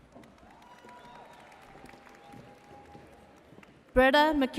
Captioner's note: audience cheering and applauding throughout